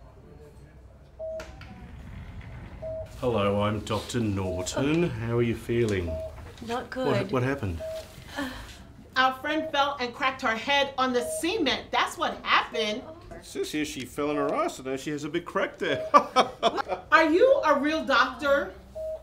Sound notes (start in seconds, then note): 16.0 ha ha ha